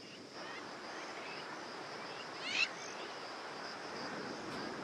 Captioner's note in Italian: cinguettii